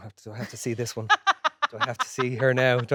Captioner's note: Jessie laughing